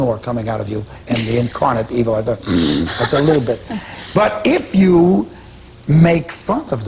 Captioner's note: makes snoring sound; laughter